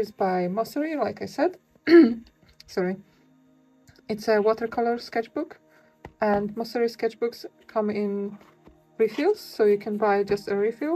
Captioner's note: coughs